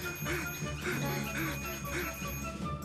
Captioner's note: panting